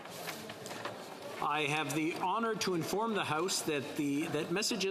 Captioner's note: speaking French